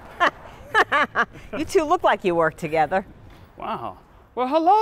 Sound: chuckles

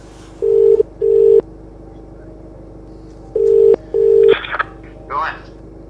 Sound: phone ringing

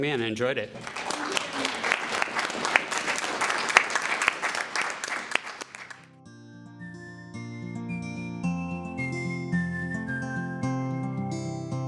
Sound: applause

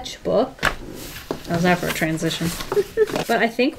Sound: laughs

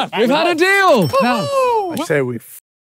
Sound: overlapping chatter

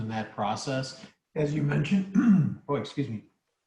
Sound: cough

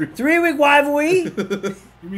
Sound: laugh

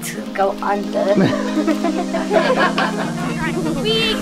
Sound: laughter

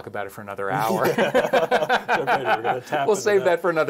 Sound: laugh

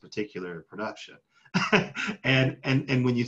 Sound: laughs

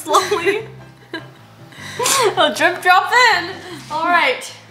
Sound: laughs

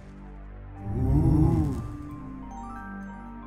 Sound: Team 5 oohs in awe

